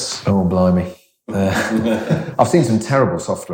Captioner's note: laughs